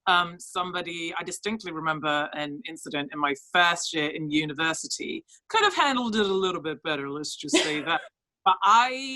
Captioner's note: laughs